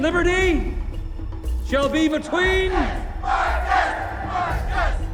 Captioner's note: crowd